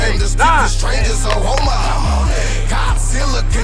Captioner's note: coach and players counting over rhythmic hip hop music; players clapping